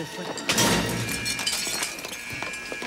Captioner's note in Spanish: vidrios rompiéndose; alarma sonando